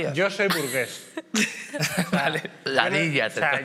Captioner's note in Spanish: todos ríen